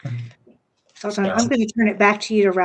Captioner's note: mumbles